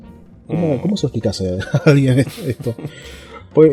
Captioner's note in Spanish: risas